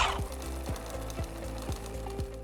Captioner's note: swishes; machine purrs; upbeat music